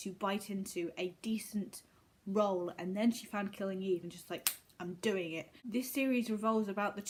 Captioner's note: snap